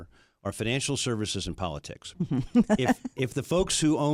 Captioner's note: laughs